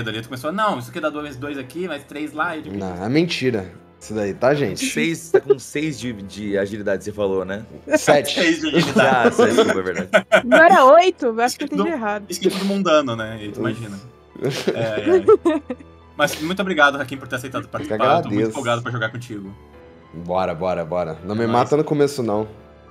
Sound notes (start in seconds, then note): 14.4 laughs